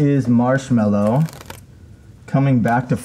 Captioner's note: sticker rips